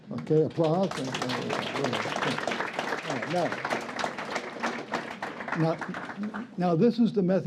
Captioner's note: applause